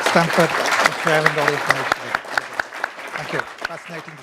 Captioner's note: applause